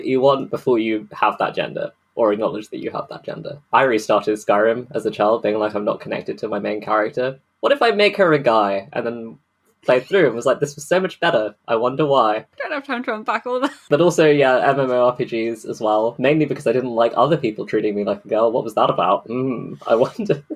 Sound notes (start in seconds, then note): 12.7 laughing; 19.1 laughing